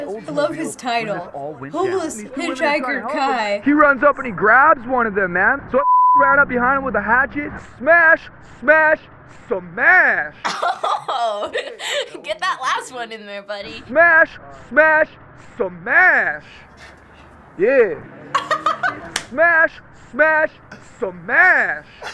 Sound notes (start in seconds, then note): 10.4 laughing; 17.5 laughs